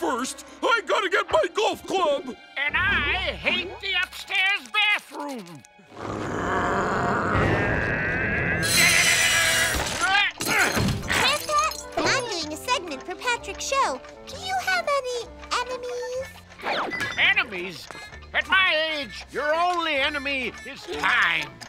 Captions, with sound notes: I gotta get my golf club! And I hate the upstairs bathroom! [growling] [grunting] Gran Pat, I'm doing a segment for Patrick's show. Do you have any enemies? Enemies? At my age, your only enemy is time.